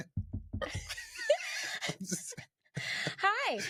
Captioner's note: knuckle tapping